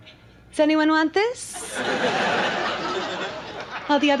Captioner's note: audience laughs